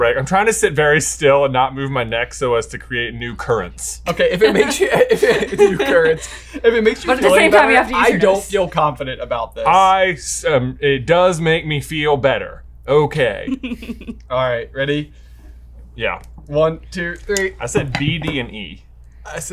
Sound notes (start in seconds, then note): 4.3 laughs